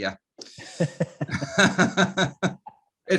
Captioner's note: laughing